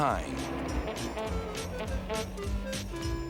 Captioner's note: honks